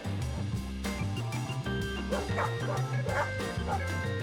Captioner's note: dog barking